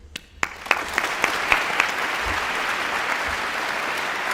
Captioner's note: audience applauding